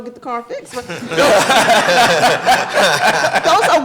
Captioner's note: audience laughing